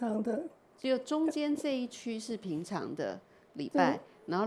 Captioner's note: Mandarin